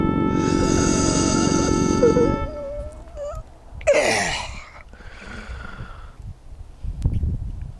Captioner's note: groans